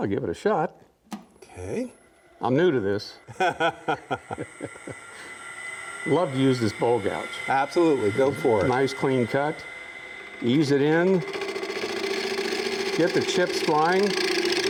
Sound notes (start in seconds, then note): 3.2 men both laugh; 11.9 wood lathe sputters